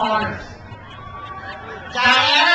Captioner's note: crowd cheers